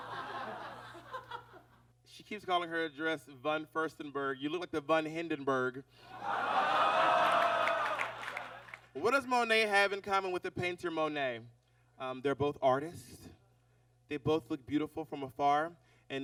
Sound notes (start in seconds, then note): 6.2 audience exclaims